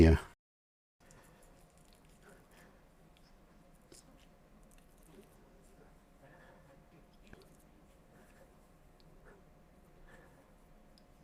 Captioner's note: silence